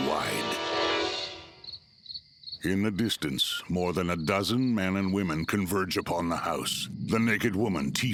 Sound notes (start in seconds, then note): 0.0 crickets chirping; 6.1 otherworldly music